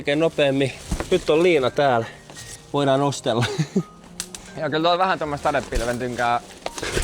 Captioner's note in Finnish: naurua